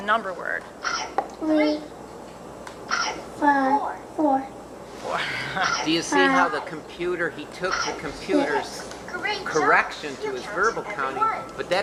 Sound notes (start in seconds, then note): 0.8 munching sound effect from computer; 2.9 munching sound effect; 5.2 laughs